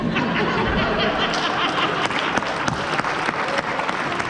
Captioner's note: applause